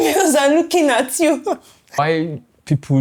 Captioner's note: laughs